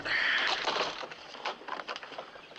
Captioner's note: crashing